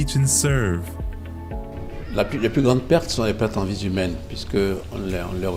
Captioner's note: speaking in French